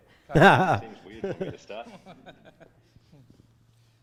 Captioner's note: laughing